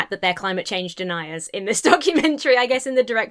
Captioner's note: laughs